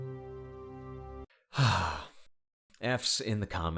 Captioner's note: deep breath